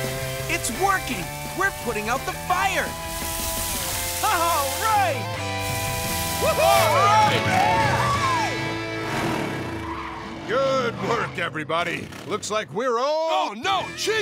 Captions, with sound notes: It's working, we're putting out the fire! All right! [cheering] Good work, everybody. -looks like we're all-- -Oh no, chief!